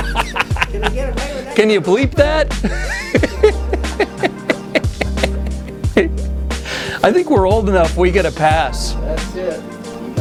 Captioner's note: laughs